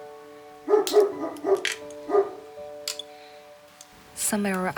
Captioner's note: A dog barking